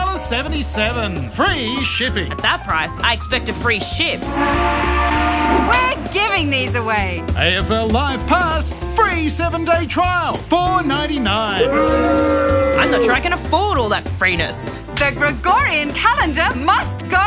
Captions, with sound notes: At that price, I expect a free ship. (Crowd boos) I'm not sure I can afford all that freeness.